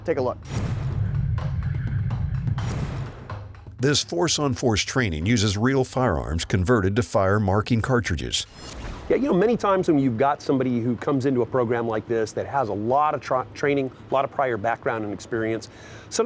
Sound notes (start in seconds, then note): 0.5 whooshing; 0.5 intense percussive music; 2.7 whooshing; 8.7 whooshing